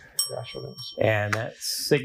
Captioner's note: bell dings